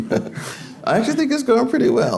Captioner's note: laughing